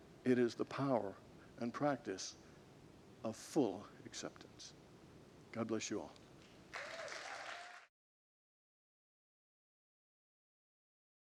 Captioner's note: congregants applaud